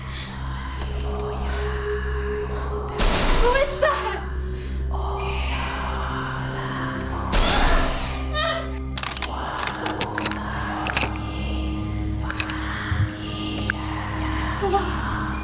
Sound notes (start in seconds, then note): 0.2 raspy whispering in foreign language; 2.8 loud banging; 4.7 raspy whispering in foreign language; 7.2 loud banging; 7.4 fearful shrieking